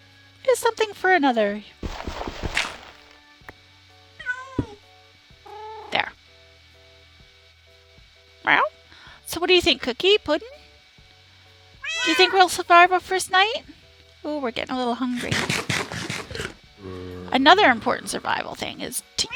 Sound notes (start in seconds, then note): 6.3 meows in response to the cats; 11.8 cats meow in unison